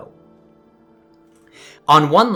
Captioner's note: inhale